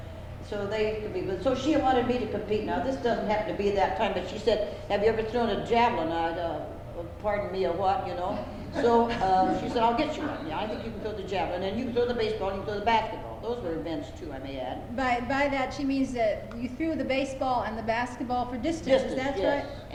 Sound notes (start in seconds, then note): 8.3 laughter